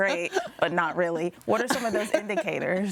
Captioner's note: guests laughing